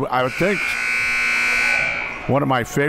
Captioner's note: buzzer